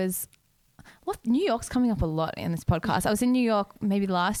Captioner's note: none